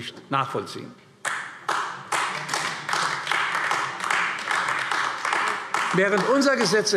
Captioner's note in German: Beifall AfD